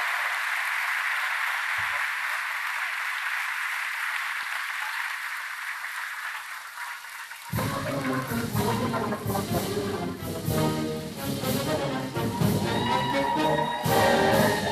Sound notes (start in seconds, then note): 2.1 applause